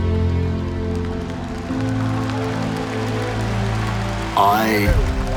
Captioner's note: cheering